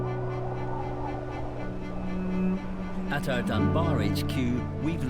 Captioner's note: gentle thoughtful music; wind whistling